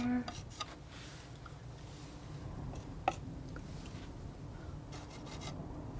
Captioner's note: scratching